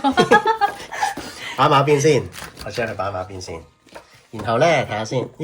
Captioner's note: laughs